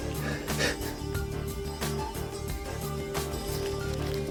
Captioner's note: he sniffles